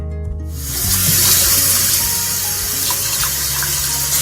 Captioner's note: water splashing